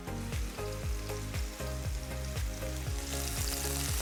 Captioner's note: oil sizzling